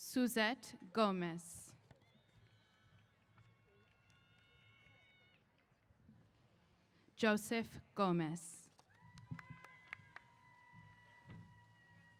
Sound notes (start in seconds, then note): 2.0 cheers; 8.8 cheers